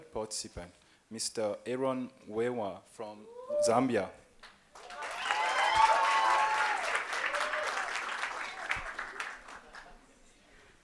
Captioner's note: applause